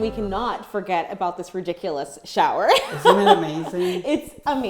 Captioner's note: laughs